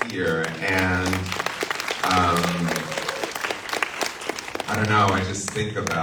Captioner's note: audience applauds